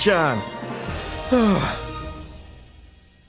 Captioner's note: sigh